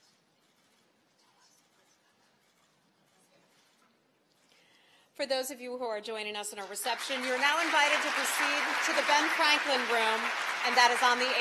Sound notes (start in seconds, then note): 6.6 applause